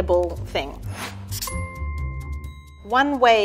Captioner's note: ping